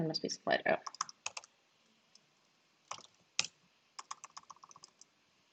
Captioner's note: keyboard rattling